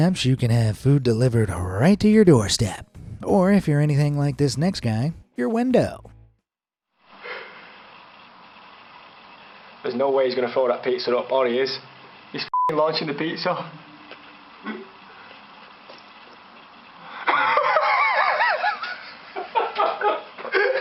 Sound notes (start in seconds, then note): 12.5 beeps; 17.1 bystanders laughing